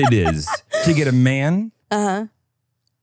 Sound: imitates dial-up internet

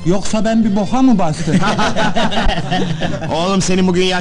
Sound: laughing

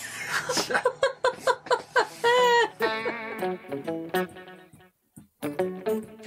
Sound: laughing

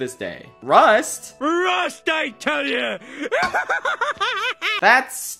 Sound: laughs like a maniac

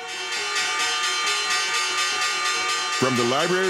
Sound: bell ringing

